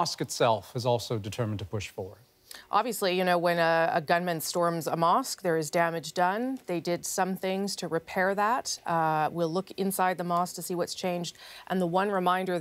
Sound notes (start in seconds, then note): none